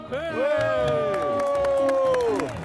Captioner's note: clapping